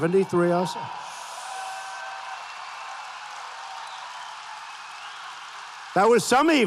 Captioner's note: applause